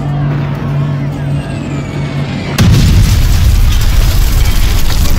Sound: weapons bullets fly

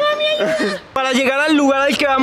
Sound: laughs

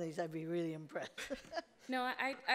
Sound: laughing

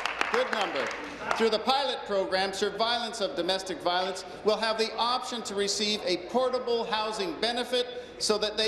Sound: applause

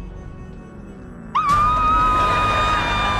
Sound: screaming

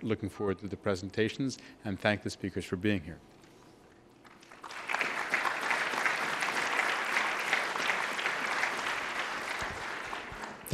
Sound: applause

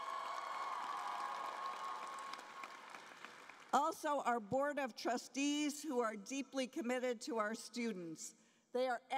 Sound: cheering and Applause

